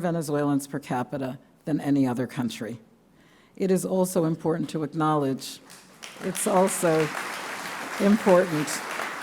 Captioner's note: applause